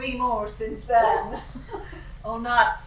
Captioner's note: laughing